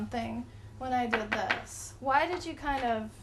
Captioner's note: tapping on Board